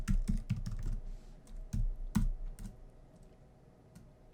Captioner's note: typing on keyboard